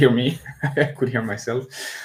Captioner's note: laughs